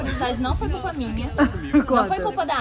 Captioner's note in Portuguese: Laughing